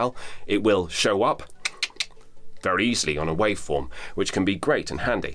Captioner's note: clicks